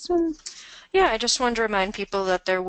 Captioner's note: voiceover